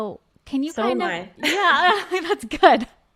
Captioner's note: laughing